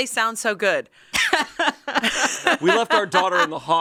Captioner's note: laugh